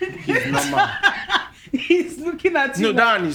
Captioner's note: laughing